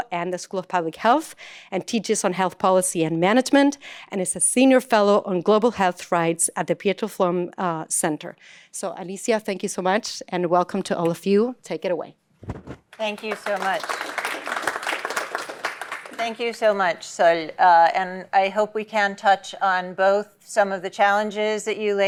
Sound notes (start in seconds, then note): 12.9 applause